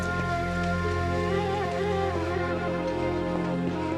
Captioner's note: none